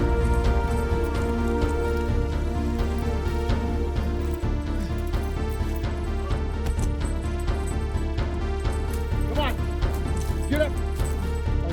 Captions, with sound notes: [Heavy breathing] Come on. Get up!